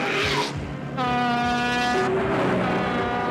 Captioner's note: horn blasts; horn blasting